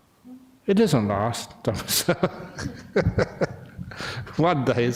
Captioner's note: laughter